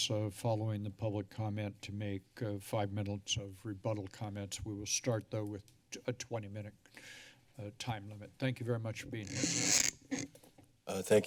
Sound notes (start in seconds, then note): 6.9 sigh; 9.2 microphone sounds